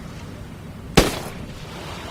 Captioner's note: gunshot